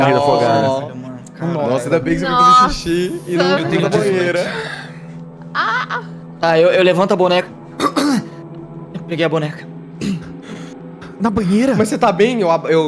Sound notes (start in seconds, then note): 7.7 coughs